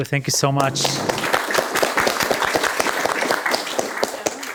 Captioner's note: applause